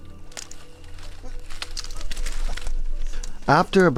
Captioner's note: twigs crackling